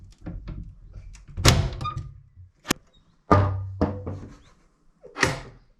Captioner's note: window clattering